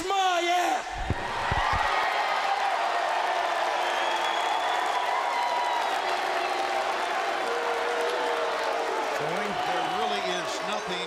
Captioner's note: crowd cheering